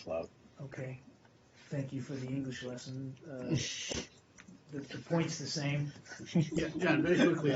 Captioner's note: laughter